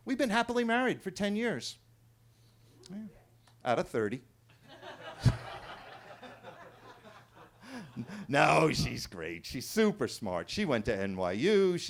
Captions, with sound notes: We've been happily married for 10 years out of 30. (everybody laughing) No, she's great. She's super smart. She went to NYU.